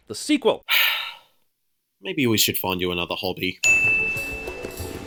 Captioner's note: sigh